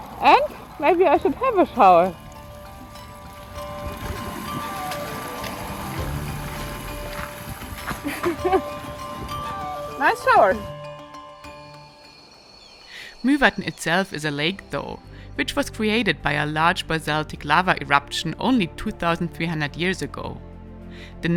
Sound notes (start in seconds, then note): 2.9 gentle music; 2.9 water spattering; 7.9 laughs; 10.3 gentle music; 11.7 birds chirping; 11.7 gentle music